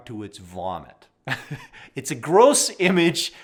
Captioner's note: chuckles